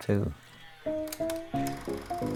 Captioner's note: machine whirring